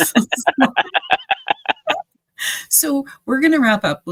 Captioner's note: panelists laughing